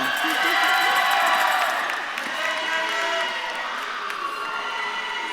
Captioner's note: audience claps and cheers